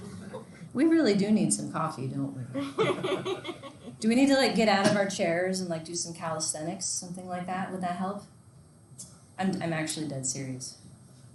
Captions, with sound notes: We really do need some coffee don't we. (students laughing) Do we need to get out of our chairs and like do some calisthenics? Something like that will that help? I'm actually dead serious.